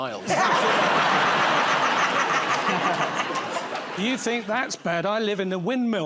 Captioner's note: laughter